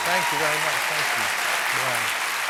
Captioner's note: cheers and applause